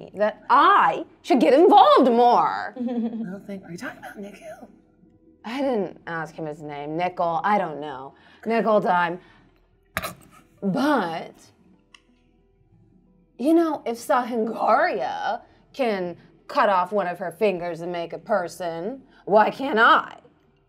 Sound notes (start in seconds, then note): 9.7 scoffs